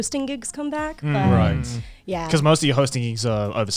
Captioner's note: guys humming agreement